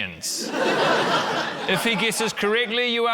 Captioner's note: laughter